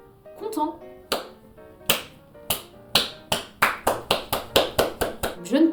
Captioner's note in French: clap clap clap